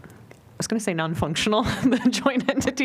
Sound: laughter

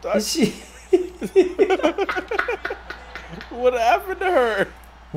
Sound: laugh

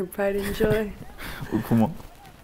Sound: both chuckling

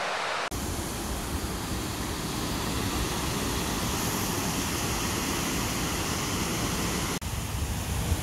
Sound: waterfall sounds

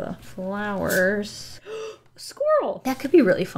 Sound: gasps

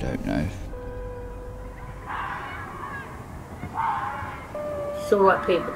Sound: sound of foxes screaming

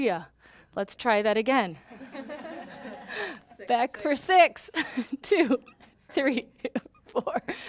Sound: laughing

